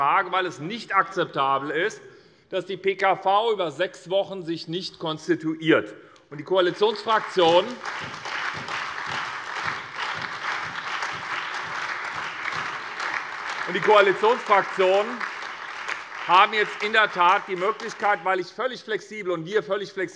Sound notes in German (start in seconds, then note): 6.6 Beifall SPD, AfD, Freie Demokraten und DIE LINKE